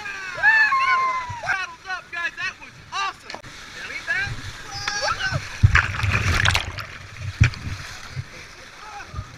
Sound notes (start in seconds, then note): 0.0 cheering; 4.2 water roaring and talking